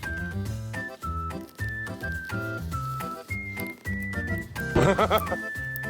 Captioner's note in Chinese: 笑声